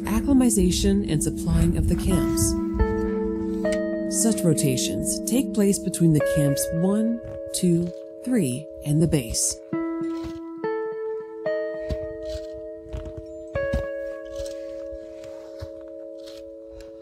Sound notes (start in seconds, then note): 11.6 crunch of crampons hitting the snow